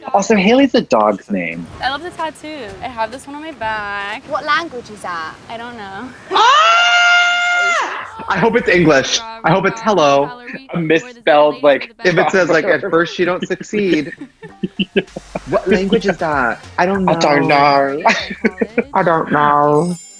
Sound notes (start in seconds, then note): 6.0 screams; 14.6 laughs; 19.5 laughs